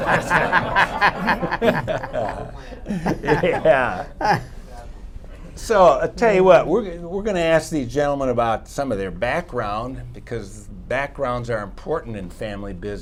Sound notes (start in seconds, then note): 2.2 laughter